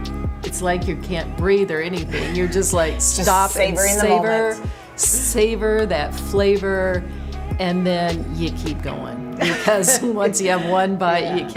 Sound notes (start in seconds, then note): 4.7 laughs